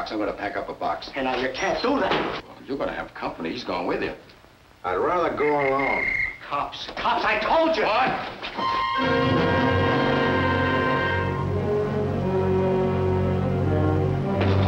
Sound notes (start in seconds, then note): 5.4 whistle blowing; 8.9 dramatic music